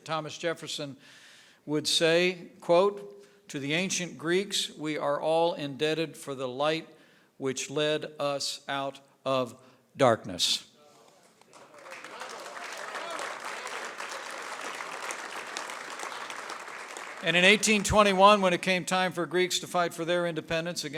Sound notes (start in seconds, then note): 11.1 applause